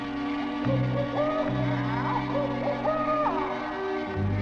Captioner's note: animal howling